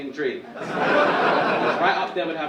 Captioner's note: audience laughing